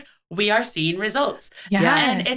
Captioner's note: laughing